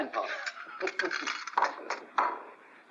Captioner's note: grandfather laughs